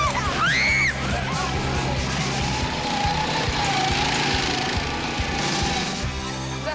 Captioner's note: screams